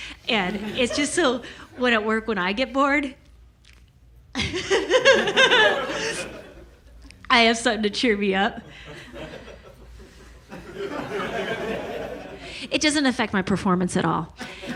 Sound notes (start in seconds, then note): 4.4 laughs maniacally; 10.8 audience laughs